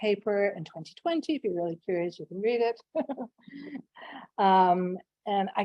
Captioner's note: laughs